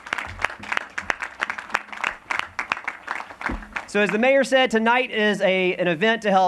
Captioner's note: applause